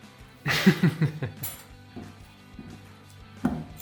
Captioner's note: laughing